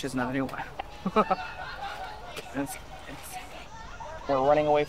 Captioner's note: laughs